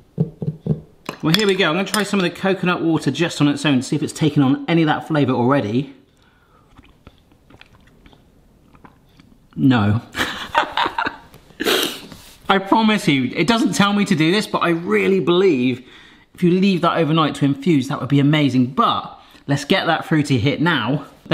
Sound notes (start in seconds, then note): 10.2 laughing